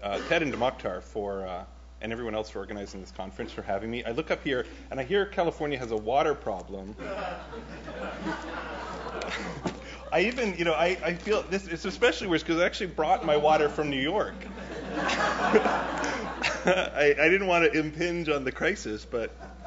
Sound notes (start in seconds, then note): 7.0 audience laughs; 13.0 audience laughs